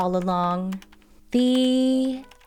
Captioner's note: typing